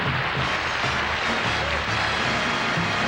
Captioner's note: applause